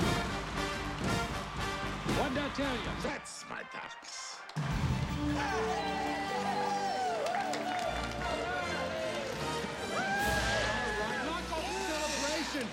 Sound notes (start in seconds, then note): 4.4 ducks Cheering; 9.6 whooping